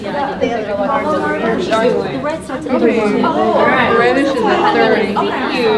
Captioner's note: participants talking at once